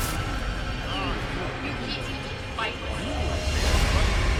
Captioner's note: voices echoing; slow dramatic music continues